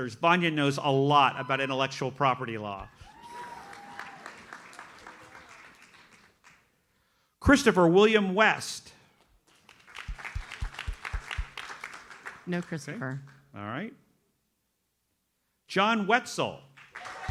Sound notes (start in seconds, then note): 2.9 audience applauds; 9.4 audience applauds; 16.8 audience cheers and applauds